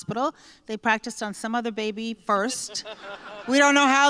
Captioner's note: laughter